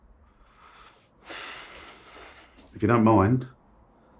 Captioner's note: sighs